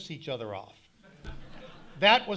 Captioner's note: audience laughing